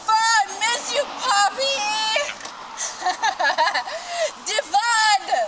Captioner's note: laughing